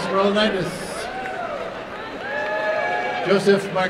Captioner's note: applause and cheering